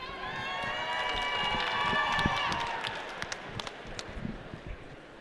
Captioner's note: audience applauding